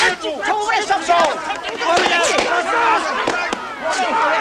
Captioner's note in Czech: hluk rvačky